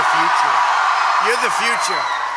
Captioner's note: applause